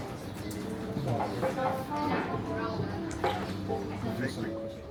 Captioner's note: crowd chattering